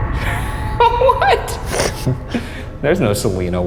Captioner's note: foreboding music; laughing